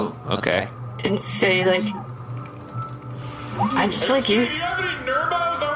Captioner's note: shouting